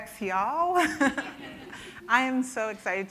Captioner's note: audience laughing